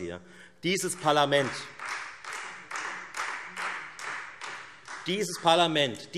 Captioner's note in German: Beifall Freie Demokraten und vereinzelt AfD